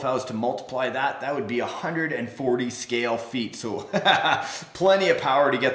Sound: laughs

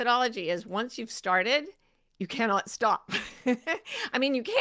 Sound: laughs

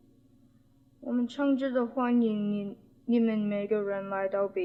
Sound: spoken in Mandarin Chinese

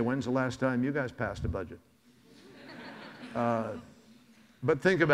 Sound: audience laughs

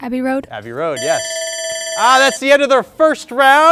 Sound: round bell rings

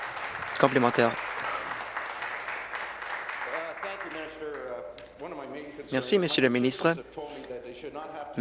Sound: applause

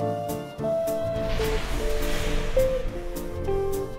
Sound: woosh

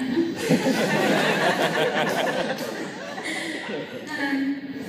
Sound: laughter

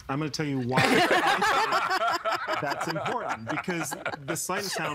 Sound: everyone laughing

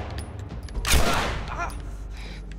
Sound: groans

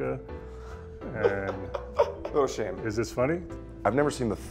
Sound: laughs

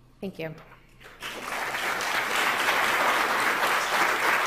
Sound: applause

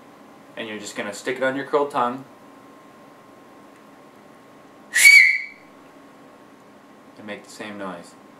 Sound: whistle

